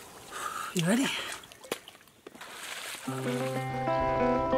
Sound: sighs; gentle music

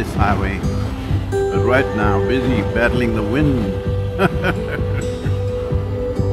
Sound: laughs

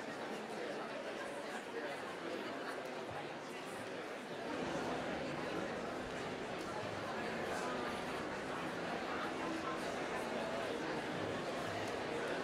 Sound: applause

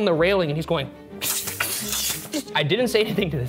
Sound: hissing

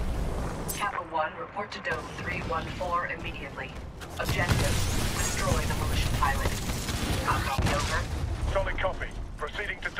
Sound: radio

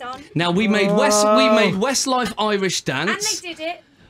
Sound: groans

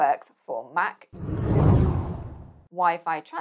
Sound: screen whooshing

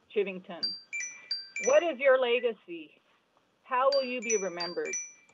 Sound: chime

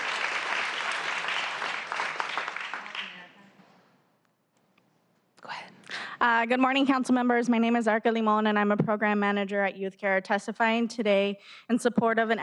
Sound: applause

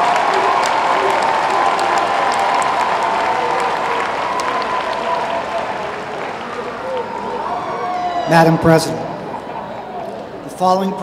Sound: applause

